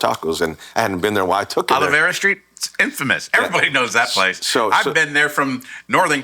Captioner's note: laughing